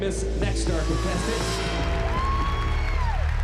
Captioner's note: applause and cheering